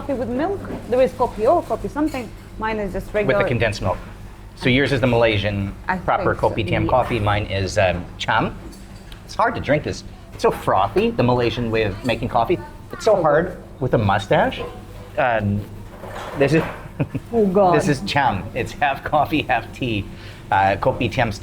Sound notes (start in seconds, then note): 16.7 laughing